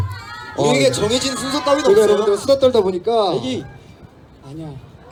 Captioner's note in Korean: 웃음